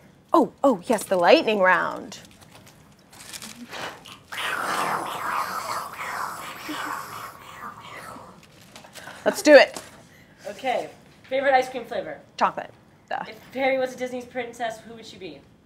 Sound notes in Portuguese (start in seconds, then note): 4.3 tentativas de fazer barulho de trovão com a boca